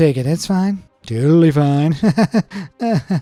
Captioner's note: awkwardly laughs